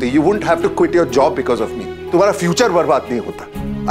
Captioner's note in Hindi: none